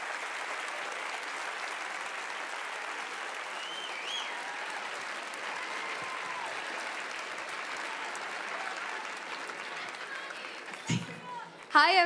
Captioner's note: applause